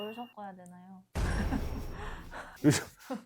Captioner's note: sound effect: boom